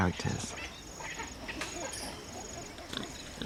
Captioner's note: hooting; snorts